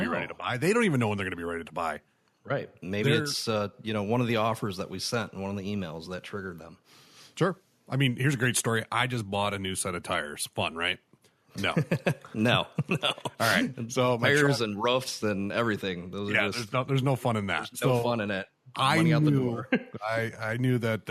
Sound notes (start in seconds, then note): 12.6 chuckle